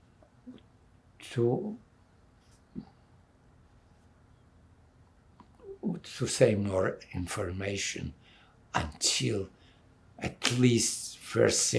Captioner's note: pauses 6 seconds